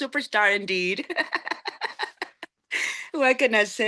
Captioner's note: laughing